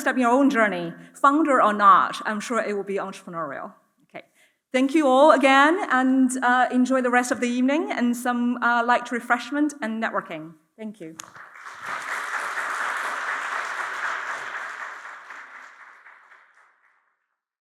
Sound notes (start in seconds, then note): 11.2 audience applauds